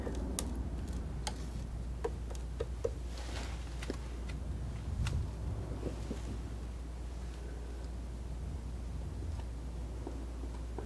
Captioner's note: scratching